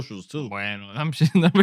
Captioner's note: speaking Spanish